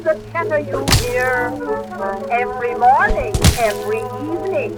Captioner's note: blood squelches